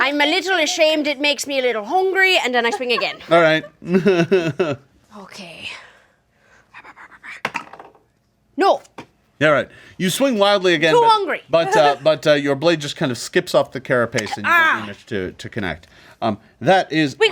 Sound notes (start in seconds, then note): 2.5 laughing; 6.2 dice clatter